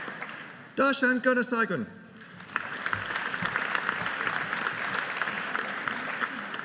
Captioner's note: audience applauding